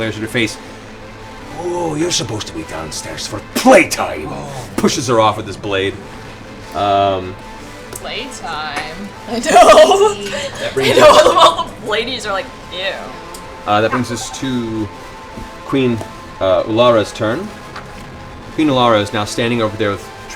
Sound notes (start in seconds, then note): 8.5 laughs